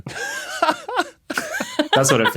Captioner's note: laugh